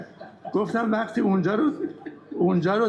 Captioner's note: laughter